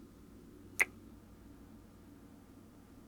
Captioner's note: kiss